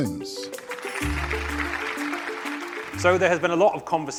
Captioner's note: audience clapping